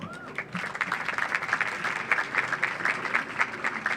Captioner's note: audience applauds